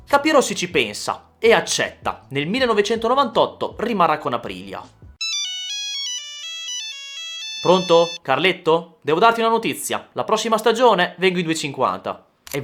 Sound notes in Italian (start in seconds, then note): 7.6 squillo telefono